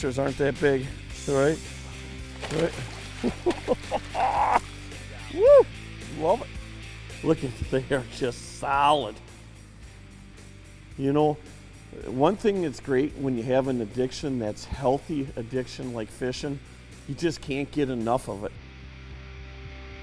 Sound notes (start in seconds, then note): 2.2 splashing; 2.8 laughing